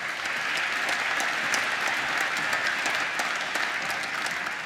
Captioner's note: applause